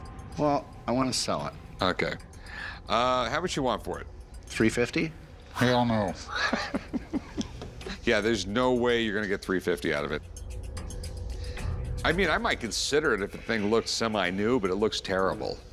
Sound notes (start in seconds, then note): 6.2 laughs